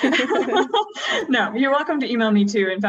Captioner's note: laughs